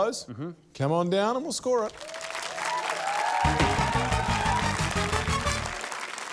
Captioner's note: cheering, applause